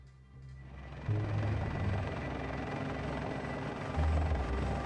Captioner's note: helicopter fluttering